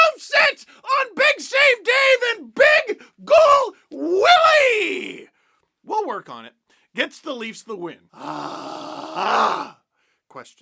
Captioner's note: sigh of relief